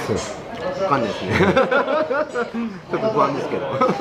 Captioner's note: laughs